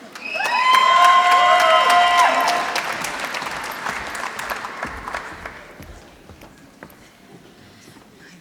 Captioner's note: applause